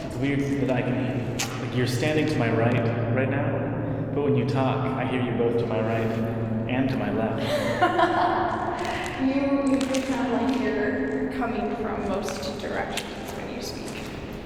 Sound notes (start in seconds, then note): 7.4 chuckles